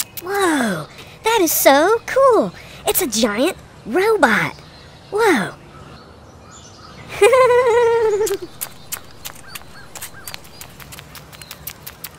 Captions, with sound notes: whoa, that is so cool it's a giant robot ...... whoa [ giggles]